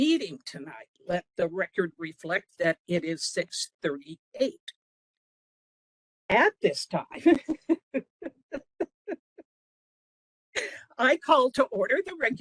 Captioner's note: laughing